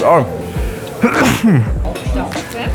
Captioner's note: sneezes again